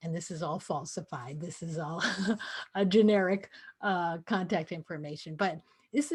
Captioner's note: laughter